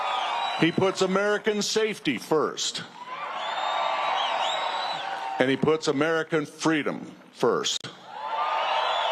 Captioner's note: cheers and applause